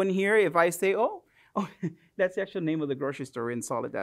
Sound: chuckles

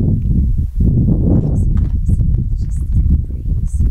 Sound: wind blows

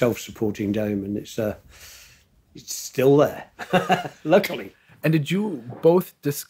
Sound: laughing

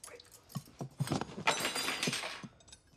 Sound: cutlery clatters

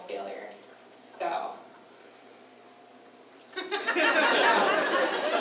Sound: audience laughter

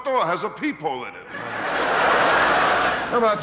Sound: audience laughing

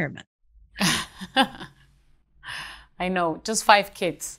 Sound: laughs

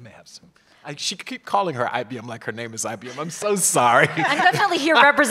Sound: laugh

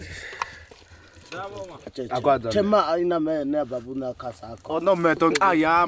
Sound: speaking foreign language

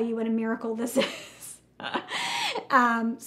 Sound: laughs

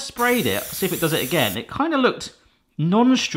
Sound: spraying

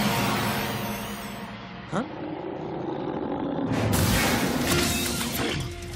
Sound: Manticore growling

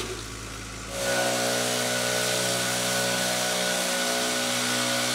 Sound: leaf blower blares

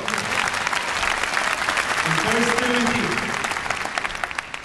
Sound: audience applause

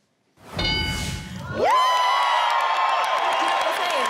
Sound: bell dings; audience cheers

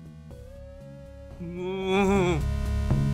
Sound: groans; 8-bit theme plays

